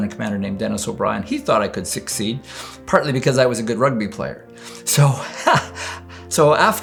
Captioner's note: rires